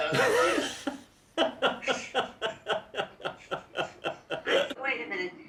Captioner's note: laughing